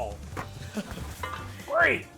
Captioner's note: utensil tapping